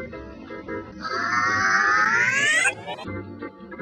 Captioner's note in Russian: орёт наоборот и с усилением